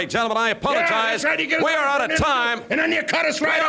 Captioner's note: chattering